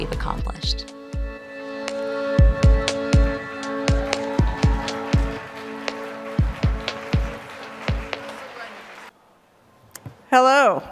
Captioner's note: applause